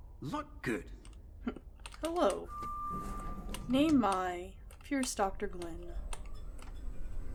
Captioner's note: laugh